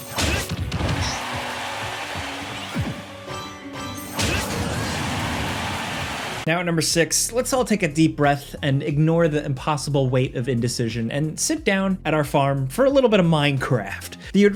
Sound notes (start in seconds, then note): 0.0 blows thudding; 0.2 fighters grunting; 0.7 crowd cheering; 4.1 blows thudding; 4.3 crowd cheering